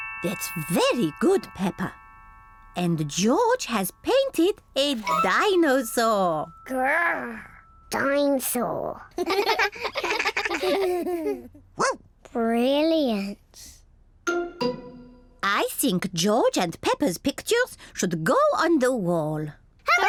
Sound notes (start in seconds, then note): 9.2 all laugh; 11.4 barks